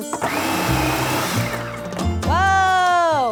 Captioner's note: whirring